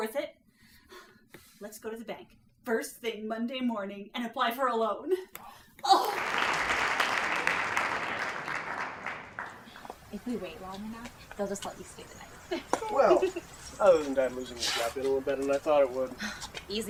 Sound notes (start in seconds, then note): 5.9 audience applauding; 12.4 giggle